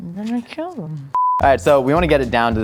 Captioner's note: beep